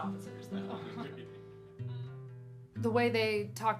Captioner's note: laughing